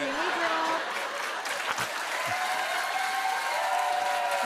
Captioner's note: cheers and applause